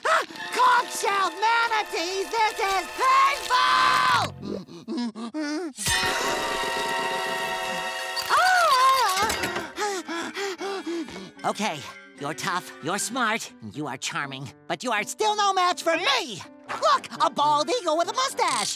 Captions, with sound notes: Conch shell manatees, this is painful! [groaning] [panting] Okay, you're tough, you're smart, and you are charming, but you're still no match for me! Look! A bald eagle with a mustache!